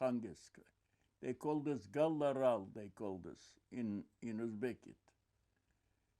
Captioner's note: non-english